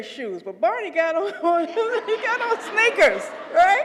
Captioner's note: laugh